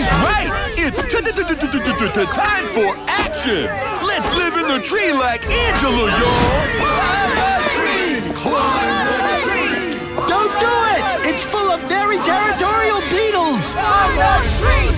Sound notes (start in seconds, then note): 7.5 crowd yelling